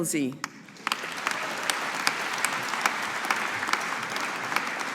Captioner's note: audience applauding